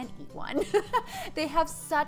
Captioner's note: laughing